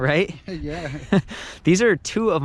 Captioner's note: laughs